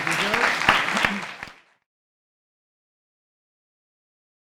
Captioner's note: crowd applauds